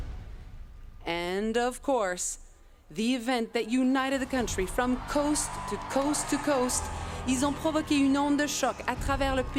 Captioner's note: speaking French